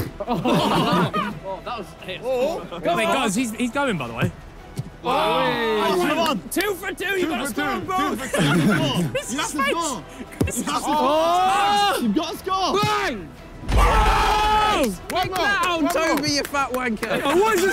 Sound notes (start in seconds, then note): 0.0 players laugh; 5.1 players exclaim; 10.2 players shout; 13.7 players cheer